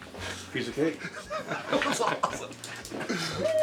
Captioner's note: laughs